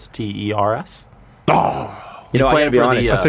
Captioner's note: dramatically disappointed sound